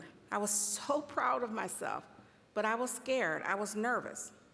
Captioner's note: none